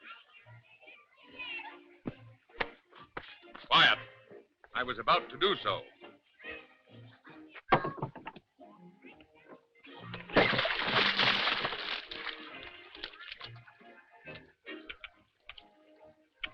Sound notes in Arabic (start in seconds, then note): 0.0 موسيقى خفيفة; 0.0 أطفال يتحدثون; 10.4 رش الماء; 12.1 موسيقى خفيفة